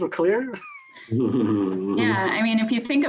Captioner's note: laughs